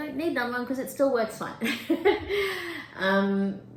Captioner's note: chuckles